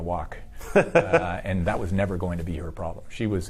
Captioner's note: laughs